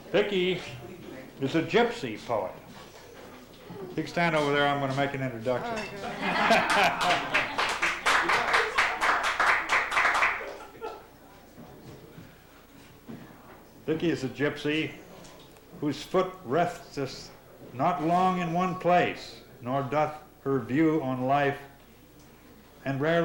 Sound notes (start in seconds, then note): 6.0 laughter, applause